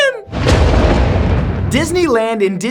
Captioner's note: thunder crashing